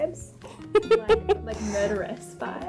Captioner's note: laughing